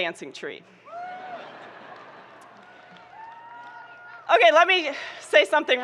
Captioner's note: audience laughing